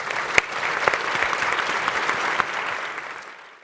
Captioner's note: applause